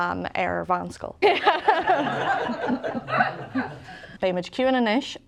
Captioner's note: laugh